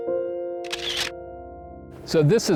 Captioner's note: sound of camera clicking